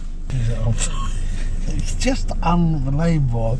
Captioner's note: laughs